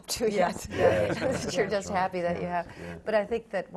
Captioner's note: laugh